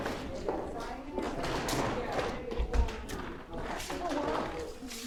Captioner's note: artists chattering